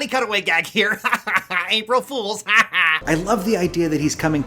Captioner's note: cackles